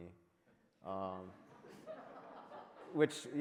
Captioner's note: audience laughs